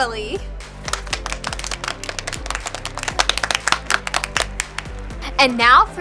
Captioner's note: applause